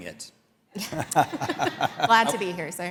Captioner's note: laughing